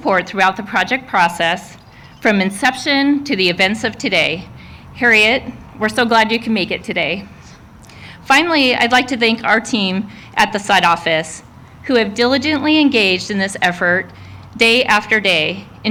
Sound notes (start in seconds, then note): none